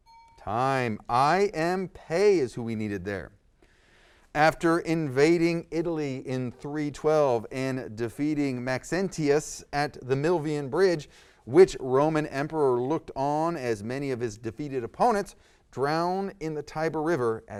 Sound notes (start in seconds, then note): 0.0 ding